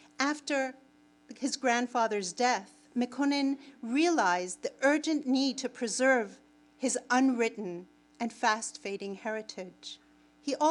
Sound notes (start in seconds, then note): none